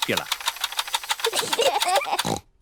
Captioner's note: both laugh